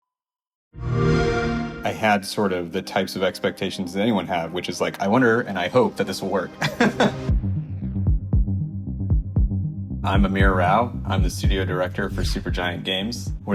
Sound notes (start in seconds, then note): 0.8 Xbox sound; 6.6 laughs